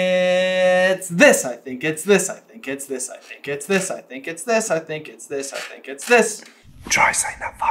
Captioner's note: sing-song